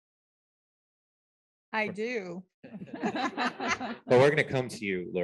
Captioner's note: laughter